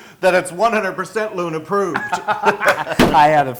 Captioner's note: laugh